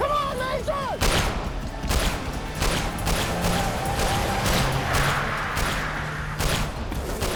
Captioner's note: gunshot